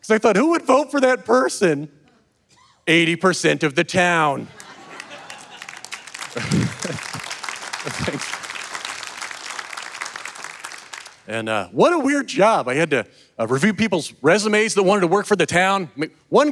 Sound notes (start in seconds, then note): 4.5 audience laughing and clapping; 6.6 chuckles; 9.0 audience laughing and clapping continously